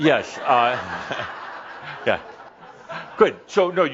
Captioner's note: laughter